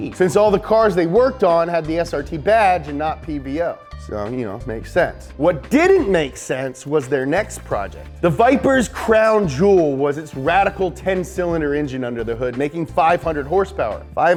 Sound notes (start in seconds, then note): none